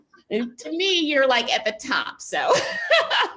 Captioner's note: laughs